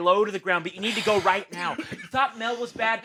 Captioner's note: Desmond coughs